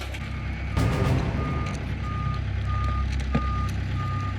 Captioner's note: vehicle alarm beeping